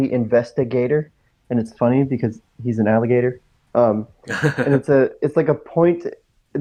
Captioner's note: laughs